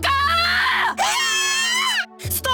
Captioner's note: panicked cries